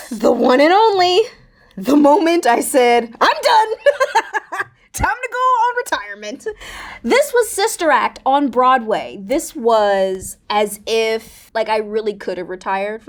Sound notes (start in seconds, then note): 3.2 Raven-Symone laughing